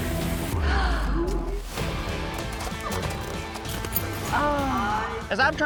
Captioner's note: gasps; groans